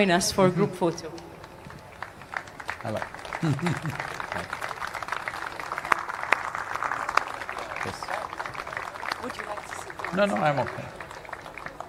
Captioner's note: applause